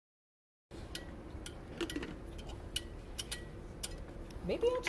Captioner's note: file catches on wire repeatedly